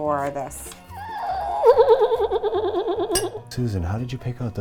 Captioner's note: horse sounds